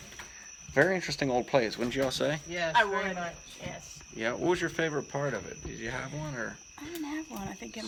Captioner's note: chatter